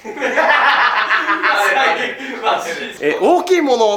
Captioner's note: laughs